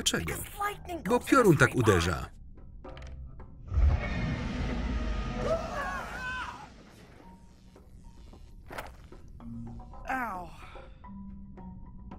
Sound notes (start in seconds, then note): 3.7 dragon roar; 3.7 lightning hit